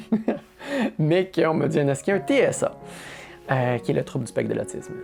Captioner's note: laughs